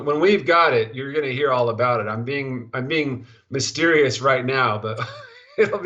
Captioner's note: laughing